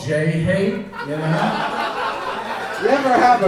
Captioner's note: audience laughs